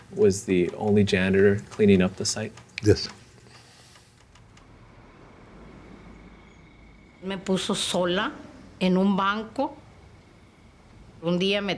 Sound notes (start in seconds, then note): 8.3 speaking Spanish